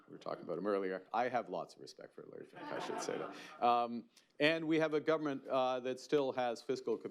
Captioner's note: laughter